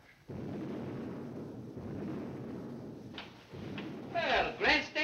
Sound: artillery firing

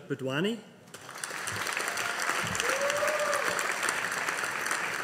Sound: audience applauding

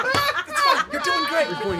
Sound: laughing

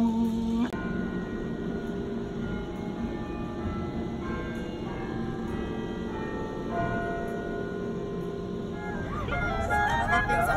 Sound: bell chimes

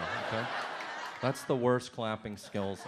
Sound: audience laughs

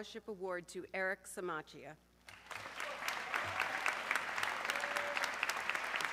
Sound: audience clapping

